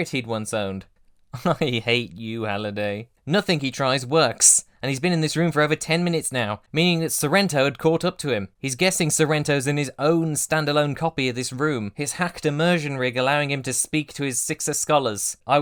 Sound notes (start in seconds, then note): 1.4 laughing hollowly